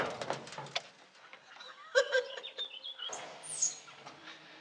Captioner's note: laughs